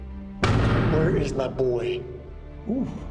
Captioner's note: hits the door